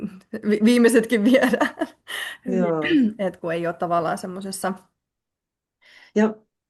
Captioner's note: naurua